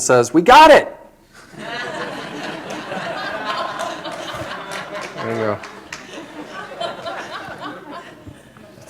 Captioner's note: laughter